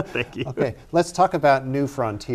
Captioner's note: laughter